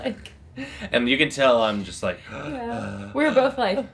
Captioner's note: panting